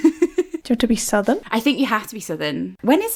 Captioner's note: laughing